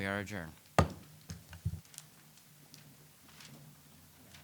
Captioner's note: gavel pounding